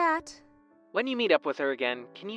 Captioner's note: phone vo